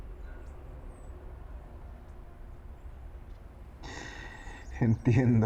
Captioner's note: birds chirping